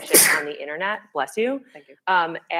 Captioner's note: sneezes